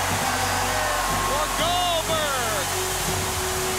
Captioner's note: crowd cheering